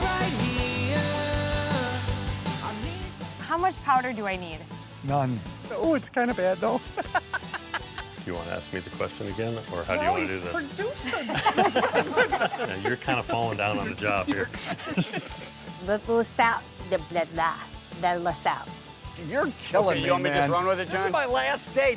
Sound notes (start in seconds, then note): 6.8 laughing; 10.9 all laughing